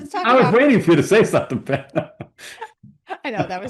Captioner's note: laughs